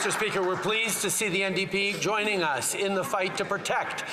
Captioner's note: some Applause